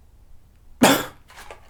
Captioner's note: cough